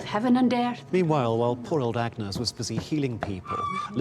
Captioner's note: woman screams